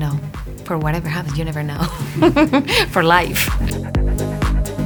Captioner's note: chuckling; upbeat music